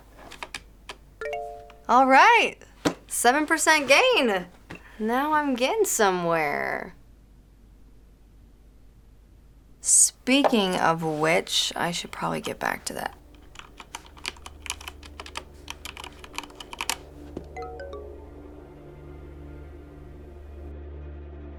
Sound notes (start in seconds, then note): 1.2 computer chimes; 17.2 phone chimes; 18.5 quiet suspenseful music plays